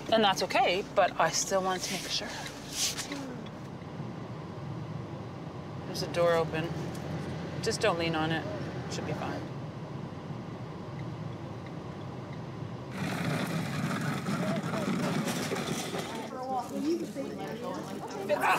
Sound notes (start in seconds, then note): 4.6 car tires hum; 11.1 blinker ticking; 12.9 wheels scraping gravel